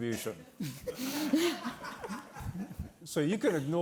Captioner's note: audience laughing